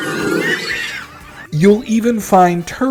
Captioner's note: screaming